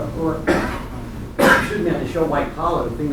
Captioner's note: coughs